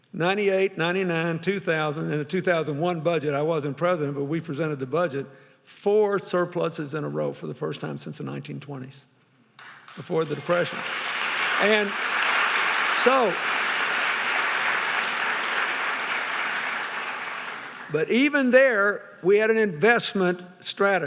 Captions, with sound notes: '98, '99, 2000 and the 2001 budget, I wasn't the President, but we presented the budget, four surpluses in a row for the first time since the 1920s. Before the Depression. (applauding) But even there, we had an investment strategy.